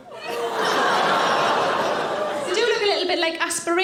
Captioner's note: audience laughing; audience exclaiming